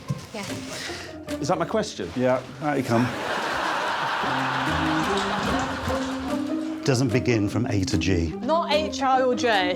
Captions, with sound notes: -You all right? -Yeah. -Is that my question? -Yeah. Out you come. [laughter] Doesn't begin from A to G.